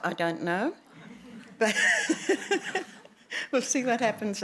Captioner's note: laughter